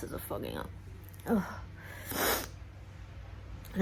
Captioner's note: sniffs